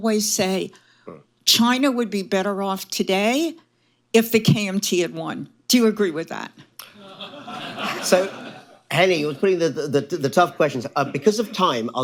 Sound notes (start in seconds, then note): 6.9 laughter